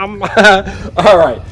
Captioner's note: laughing